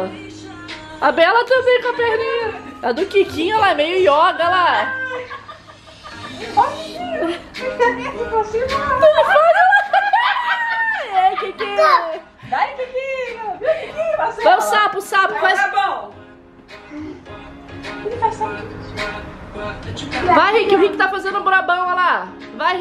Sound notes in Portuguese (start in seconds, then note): 5.1 música ao fundo; 5.1 risos; 16.1 música ao fundo